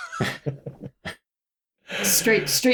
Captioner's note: laughter